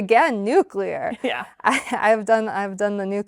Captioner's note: chuckles